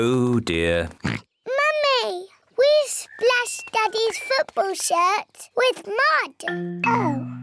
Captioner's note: oinks